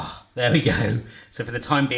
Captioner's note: groans